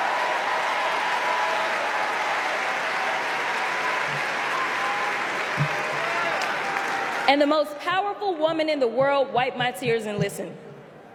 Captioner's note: applause